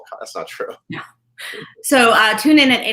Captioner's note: laughs